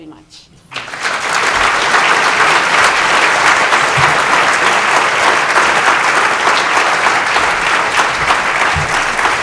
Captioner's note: applause